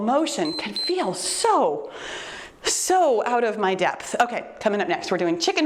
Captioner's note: timer beeps